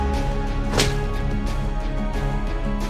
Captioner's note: smack!